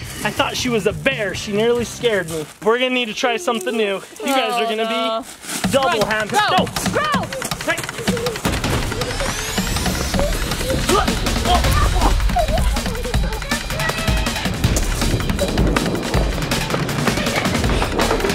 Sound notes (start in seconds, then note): 8.4 laughs; 9.3 dad grunts; 9.3 upbeat electronic music; 13.6 mom shouts